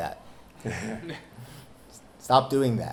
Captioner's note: laughing